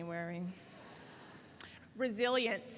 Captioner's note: audience laughs